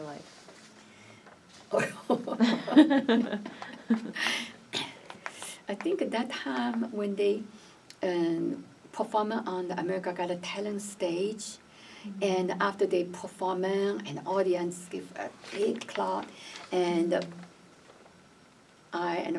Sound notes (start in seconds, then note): 3.5 laughs